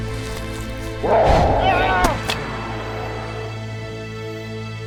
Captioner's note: riverbeast roars